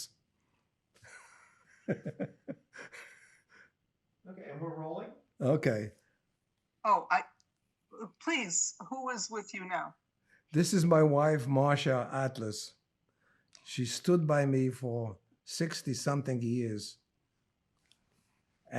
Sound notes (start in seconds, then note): 1.1 laughing